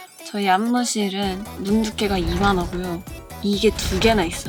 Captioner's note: door